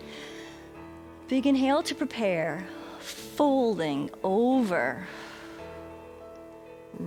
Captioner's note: exhales